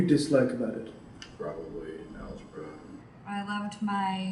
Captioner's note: voiceover